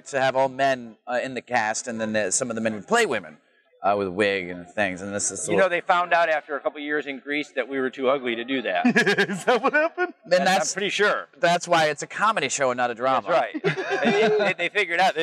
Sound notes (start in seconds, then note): 8.4 laughs